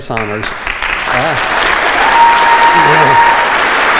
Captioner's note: applause